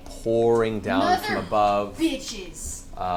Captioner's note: gasps